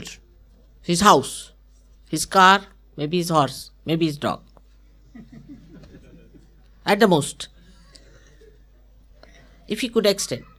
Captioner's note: laughter